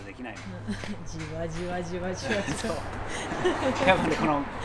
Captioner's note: gradually, slowly laughing